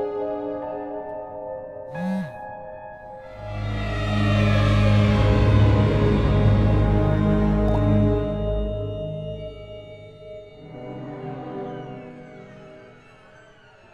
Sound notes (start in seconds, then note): 1.9 phone vibrates